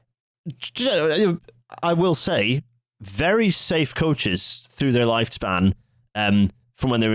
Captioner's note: stammers Scottish-ly